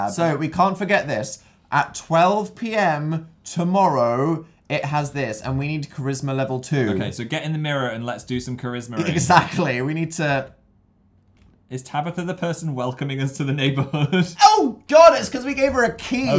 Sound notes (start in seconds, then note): 13.9 laughs